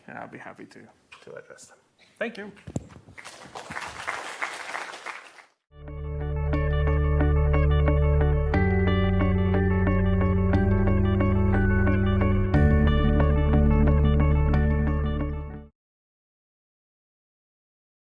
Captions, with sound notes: And I'll be happy to address them. Thank you. (students clapping) (mellow chiming music)